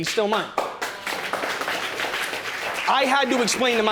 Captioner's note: audience applauds